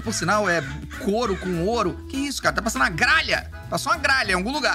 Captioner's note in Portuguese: som de aves